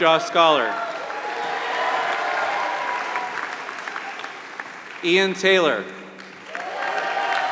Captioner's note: applause